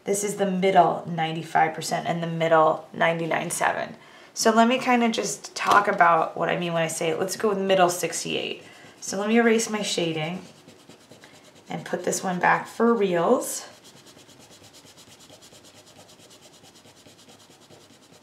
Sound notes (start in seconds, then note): 13.5 eraser scrubbing